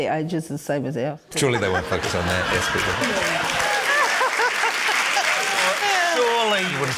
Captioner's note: laughter, cheering, applause